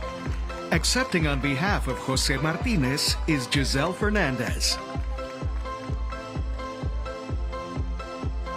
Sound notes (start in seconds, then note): 3.0 cheers and applause